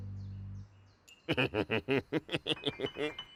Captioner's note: chuckles